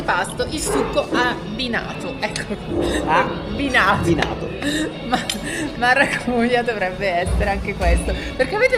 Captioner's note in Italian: risate